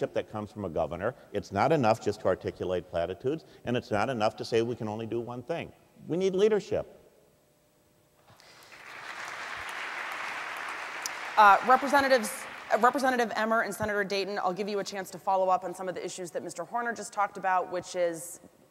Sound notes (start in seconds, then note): 8.3 applause